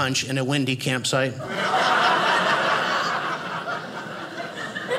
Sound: audience laughing

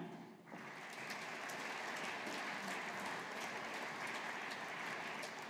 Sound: audience applauding

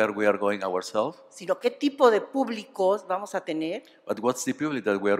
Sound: speaking spanish

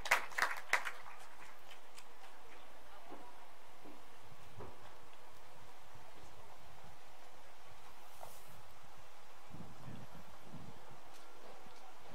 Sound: applause

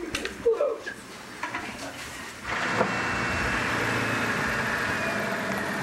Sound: engine revving

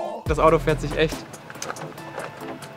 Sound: chef’s kiss

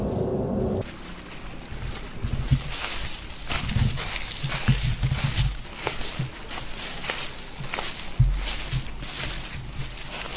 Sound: haunting music; walking through leaves

